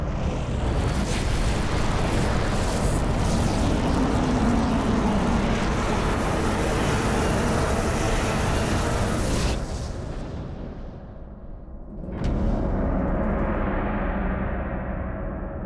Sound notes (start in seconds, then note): 1.1 air roaring; 12.7 dramatic music